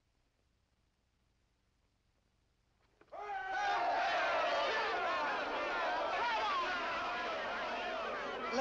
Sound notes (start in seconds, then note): 3.1 shouts of hurray and congratulation